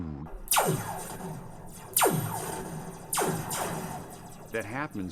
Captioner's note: sound of laser gun firing